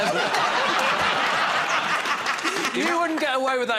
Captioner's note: laughter